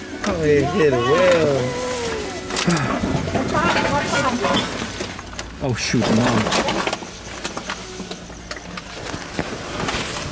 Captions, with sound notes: Oh he hid way over... [Meow] [Sigh] Watch out, watch Mom. Oh shoot, Mom.